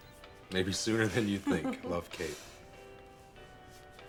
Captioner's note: laughs